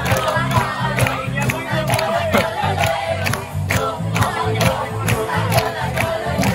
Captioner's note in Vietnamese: Vỗ tay